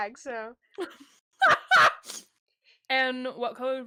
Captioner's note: laughs